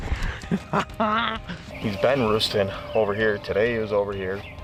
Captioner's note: laughs